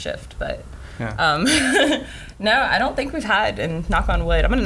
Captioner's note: laughs